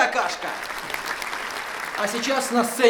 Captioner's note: applause